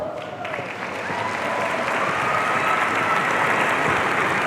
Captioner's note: audience cheering